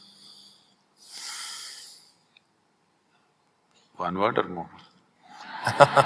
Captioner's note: laughter